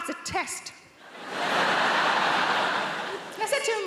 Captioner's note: audience laughs